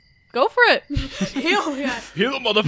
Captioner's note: laughing